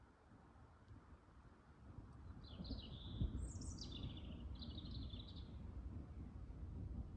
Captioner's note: bird song and distant thunder